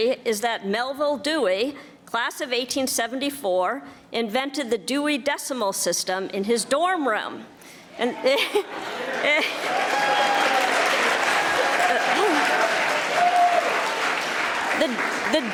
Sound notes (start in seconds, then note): 8.0 laughing; 8.0 audience laughing; 11.6 audience applauding and cheering